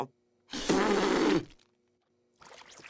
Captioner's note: spit Sounds